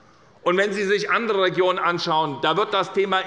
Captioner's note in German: none